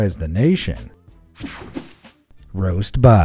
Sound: image whooshing

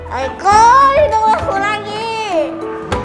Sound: in grandma's voice

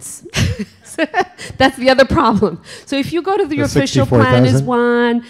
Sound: chuckle

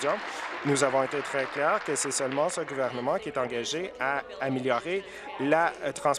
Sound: applause

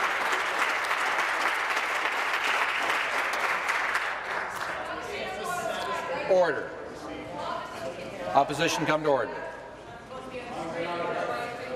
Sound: applause

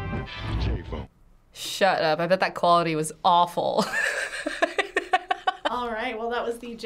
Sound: voice-over speaking Japanese; voice-over; laughs

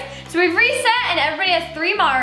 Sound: none

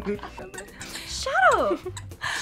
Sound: toy squeaks

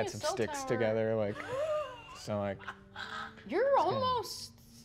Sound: laughing

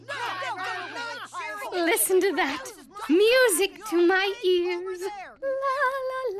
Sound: yelling

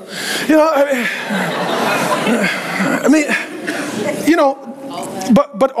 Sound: congregation laughing

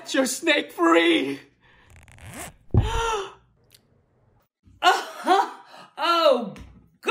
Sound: zipper unzips

